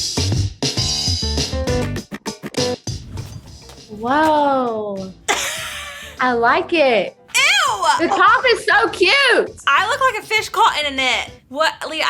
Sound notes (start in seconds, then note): 0.1 upbeat music; 5.3 laughs